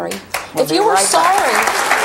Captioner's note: audience clapping